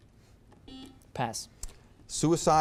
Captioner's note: buzzer beeps